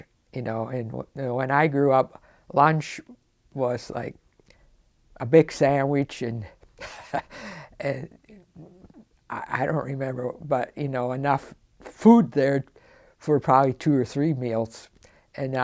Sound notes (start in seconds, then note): 6.8 laughs